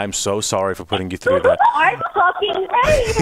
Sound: laughs

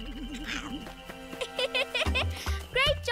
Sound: laughs

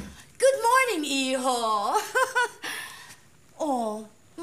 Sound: chuckles

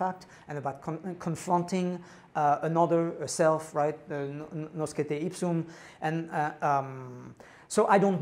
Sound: non-english

